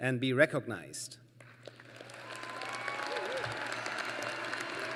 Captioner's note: applause